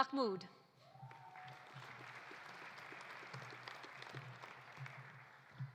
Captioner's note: audience applauding